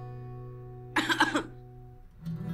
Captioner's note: Coughs